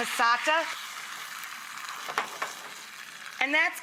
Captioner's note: pot sizzles